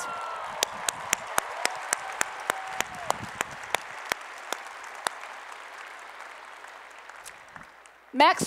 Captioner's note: applause and Cheering